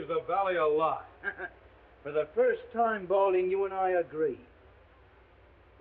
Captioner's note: scoffs